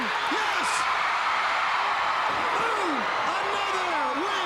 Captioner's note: crowd cheering